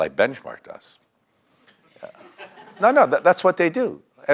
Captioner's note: laugh